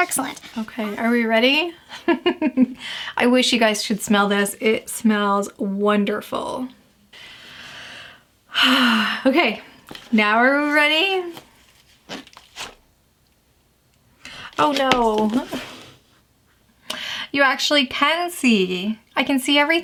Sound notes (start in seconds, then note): 1.9 giggles; 7.1 exhales